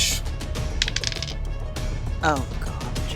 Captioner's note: die rolling